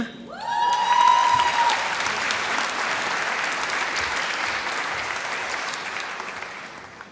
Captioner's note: applause